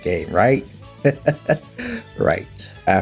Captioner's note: laughs